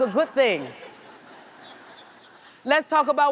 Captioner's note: audience laughs